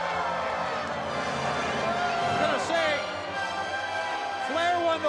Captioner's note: crowd cheering